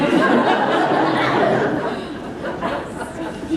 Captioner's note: laughter